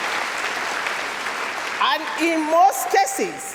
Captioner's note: applause